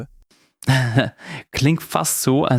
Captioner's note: laughs